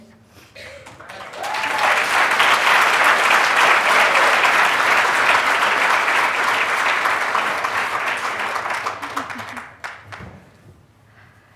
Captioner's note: clapping